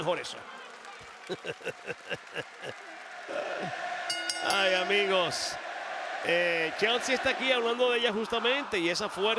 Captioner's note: laugh